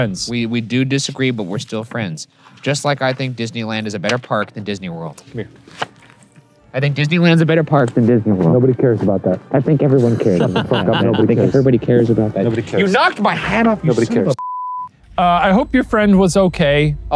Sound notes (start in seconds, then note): 10.0 laughing; 14.3 screen beeping